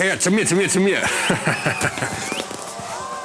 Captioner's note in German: Lacht